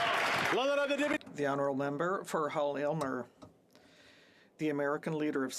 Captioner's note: some Applause